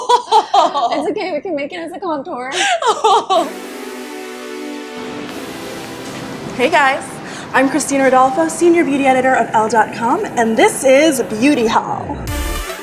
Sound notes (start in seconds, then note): 0.0 laughs; 2.6 laughs